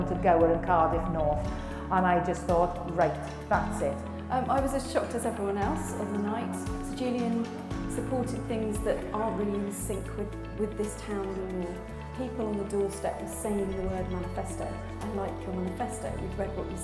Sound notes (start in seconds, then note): none